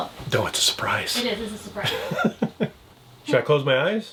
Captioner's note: laughs